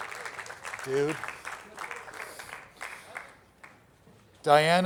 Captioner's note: attendees applauding; attendees clapping